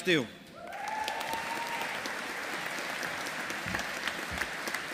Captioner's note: audience applauding